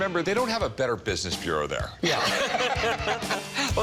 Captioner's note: laughter